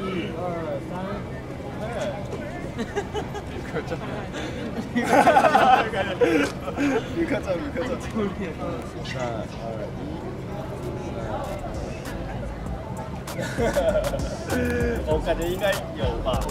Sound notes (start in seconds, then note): 2.6 laughing